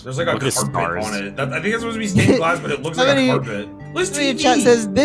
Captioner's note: laughing